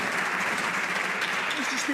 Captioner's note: some Applause